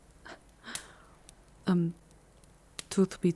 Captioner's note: shy, uncertain